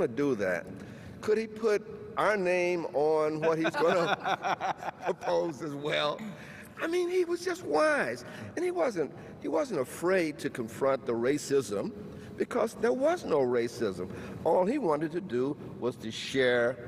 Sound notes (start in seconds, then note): 5.8 all laughs